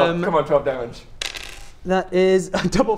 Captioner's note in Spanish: tirada de dados